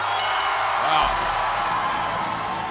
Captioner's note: bell ringing